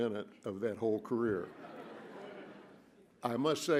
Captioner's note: laughter